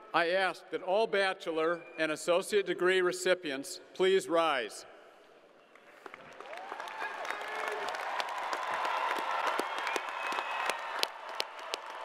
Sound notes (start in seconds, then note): 8.3 crowd applauding